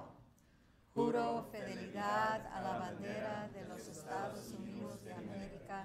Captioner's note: speaking foreign language